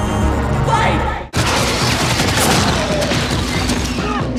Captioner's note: gunshots firing; dramatic music